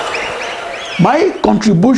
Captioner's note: wild applause and cheering for 22 seconds